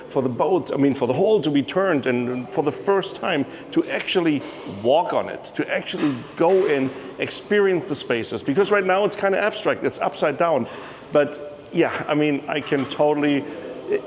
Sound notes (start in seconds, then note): none